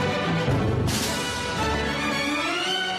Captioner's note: none